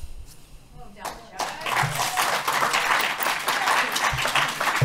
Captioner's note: applause